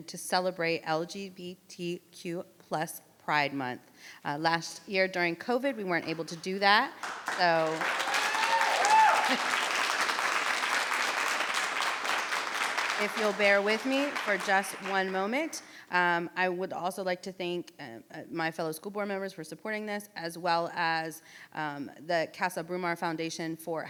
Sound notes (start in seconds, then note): 7.3 people clapping